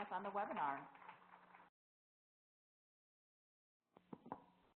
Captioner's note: applause; applause